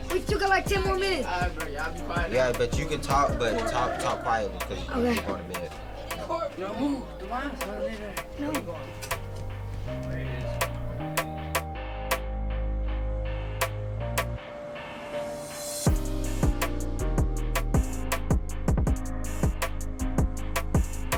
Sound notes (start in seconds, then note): 6.8 calming music; 6.8 chattering